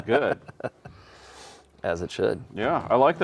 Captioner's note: chuckling; chucking; host deep inhale